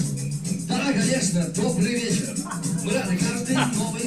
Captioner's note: speaking russian